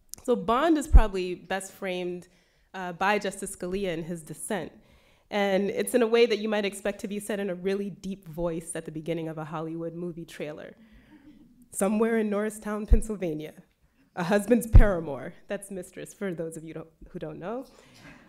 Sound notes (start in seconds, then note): 11.7 dramatically